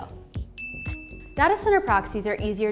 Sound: bell dinging

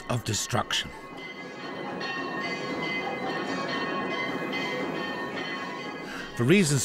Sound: sound FX - temple bells

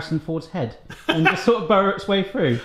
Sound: laughs

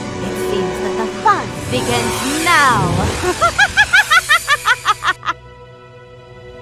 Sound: evil laugh

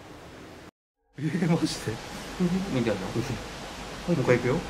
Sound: chuckling

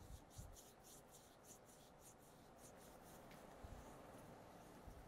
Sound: skin rubbing

